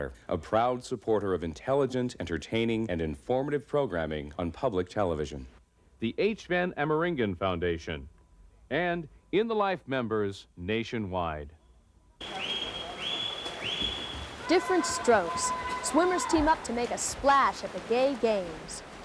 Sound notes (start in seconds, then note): 12.2 splashing, background talking